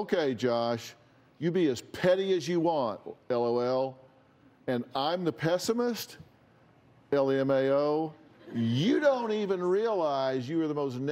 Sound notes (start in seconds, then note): none